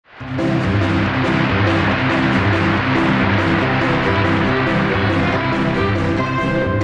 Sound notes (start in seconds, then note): 0.0 audience applauding; 0.2 upbeat music